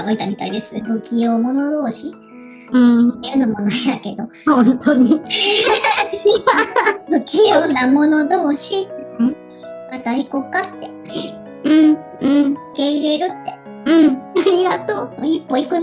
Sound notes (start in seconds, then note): 4.8 laughs